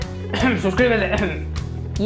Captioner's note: coff